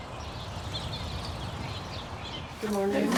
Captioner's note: birds chirping